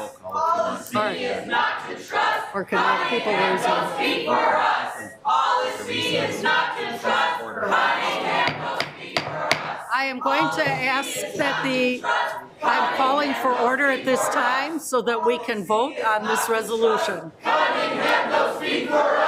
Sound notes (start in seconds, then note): 8.4 gavel banging